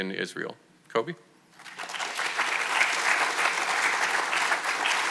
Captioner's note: audience clapping